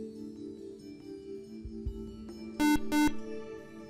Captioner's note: buzzer